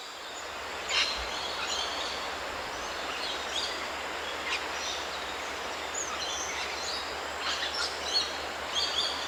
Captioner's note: waterfalls sound, birds calls